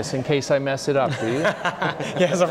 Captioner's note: laughing